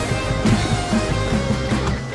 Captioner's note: heavy thud